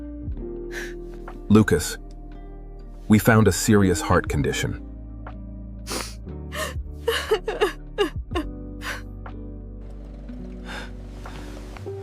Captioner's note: snorts and laughter